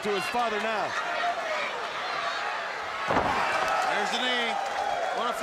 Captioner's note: crowd cheering